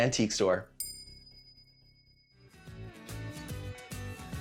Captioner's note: bell dings